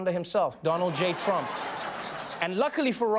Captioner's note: laughter